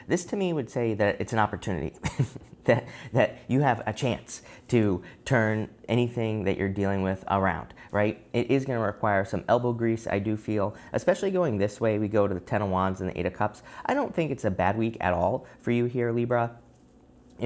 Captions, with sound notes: This to me would say that it's an opportunity, (chuckles) that you have a chance to turn anything that you're dealing with around, right? It is going to require some elbow grease, I do feel, especially going this way. We go to the 10 of Wands and the Eight of Cups. I don't think it's a bad week at all for you here, Libra.